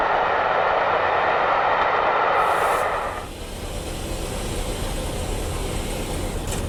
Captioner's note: train passing